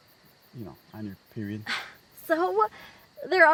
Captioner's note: Janet scoffs